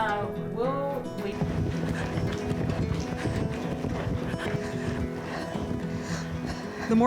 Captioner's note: bright gentle music; horse trotting